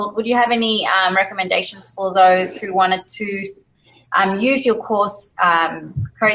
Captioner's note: laugh